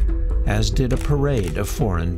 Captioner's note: camera shutter clicks